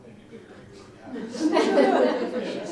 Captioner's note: audience laughs